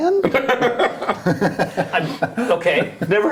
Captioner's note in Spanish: risas